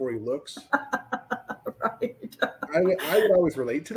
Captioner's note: laughs